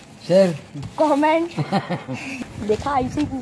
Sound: laughs

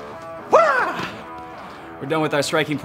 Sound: upbeat music; shouting

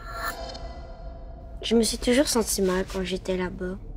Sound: Milo speaking in French

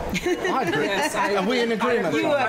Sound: spanish

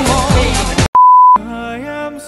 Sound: beep

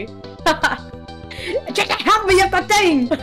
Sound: breath

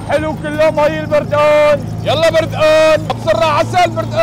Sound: mimics the shouting

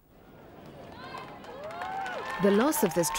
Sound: crowd cheering

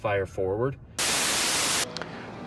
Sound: static sounds

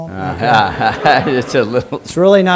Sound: laughter

